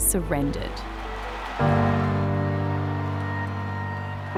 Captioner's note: cheering